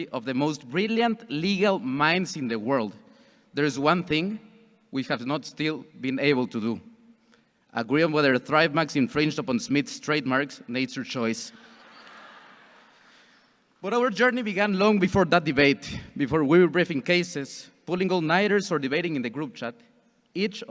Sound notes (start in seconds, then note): 11.6 audience chuckles